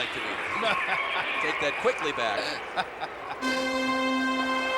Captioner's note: laughs; lively music